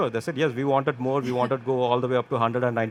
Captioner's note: chuckling